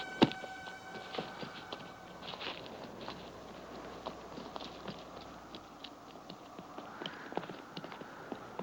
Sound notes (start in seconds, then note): 2.4 wind whooshing